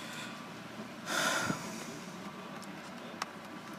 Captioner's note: sighing